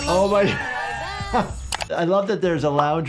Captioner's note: doctor laughing